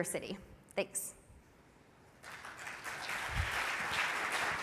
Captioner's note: audience applauds